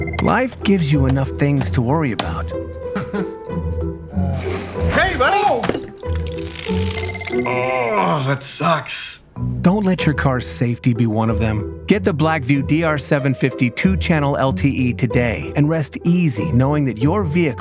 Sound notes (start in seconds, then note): 2.9 chuckles satisfyingly; 6.0 frying electronics sound